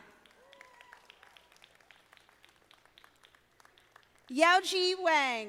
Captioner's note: audience applauding